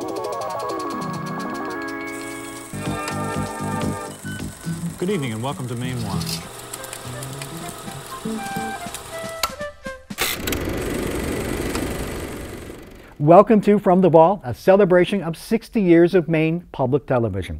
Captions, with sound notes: (mysterious music) - Good evening and welcome to Mainewatch (upbeat music) (projector clicking) Welcome to From The Vault, a celebration of 60 years of Maine Public Television.